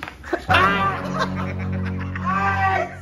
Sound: A full sound hahahahahahahaha

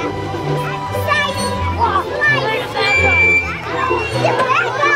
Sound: children chattering

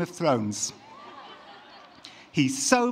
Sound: laughter

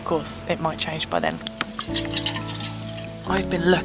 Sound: water splashing

